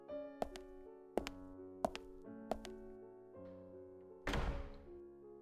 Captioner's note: retreating footstepst, door closes